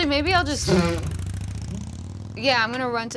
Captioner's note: blowing raspberries